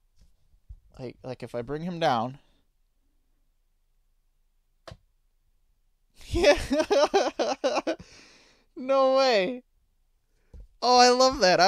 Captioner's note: laughing